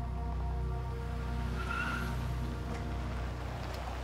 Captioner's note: tires screech